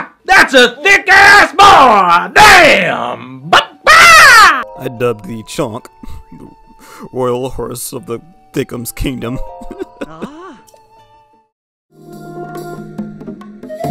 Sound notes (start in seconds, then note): 9.5 laughs; 12.0 outro music